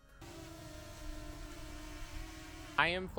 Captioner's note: drone hovers